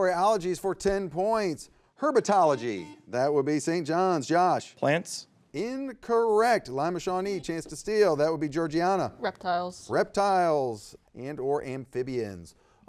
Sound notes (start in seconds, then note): 2.5 buzzer beeps